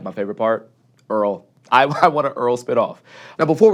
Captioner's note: chuckles